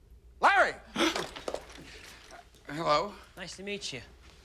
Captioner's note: gasps